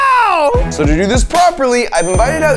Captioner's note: bell dinging